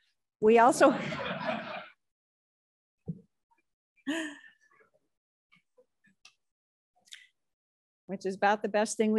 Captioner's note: crowd laughs